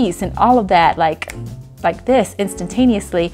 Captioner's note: fingers snapping